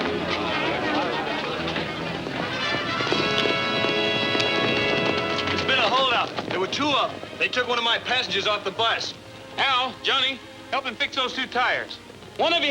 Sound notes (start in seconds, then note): 0.0 passengers chattering